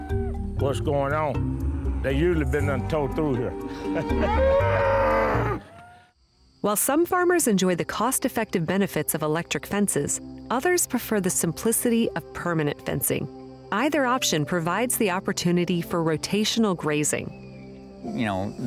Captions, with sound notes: What's going on? They usually been towed through here. (laughs) - While some farmers enjoy the cost-effective benefits of electric fences, others prefer the simplicity of permanent fencing. Either option provides the opportunity for rotational grazing.